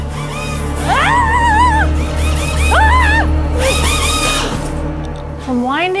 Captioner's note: screams